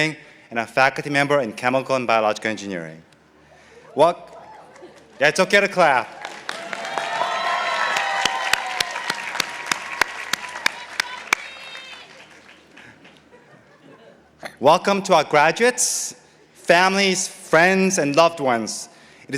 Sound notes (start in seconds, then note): 6.6 participants applauding